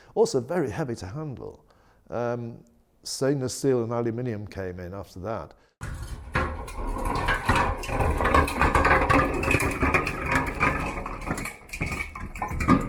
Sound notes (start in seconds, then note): 5.8 barrel clanking